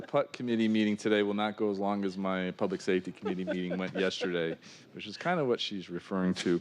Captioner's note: laughter